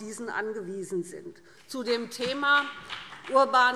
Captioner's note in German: Vereinzelter Beifall BÜNDNIS 90/DIE GRÜNEN